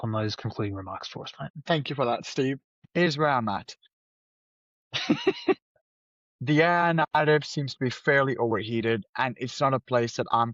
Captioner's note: chuckles